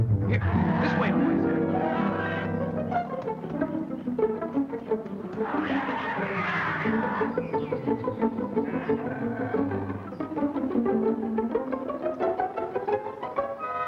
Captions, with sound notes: Here. This way, boys. [growling]